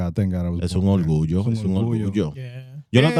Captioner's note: speaking In Foreign Language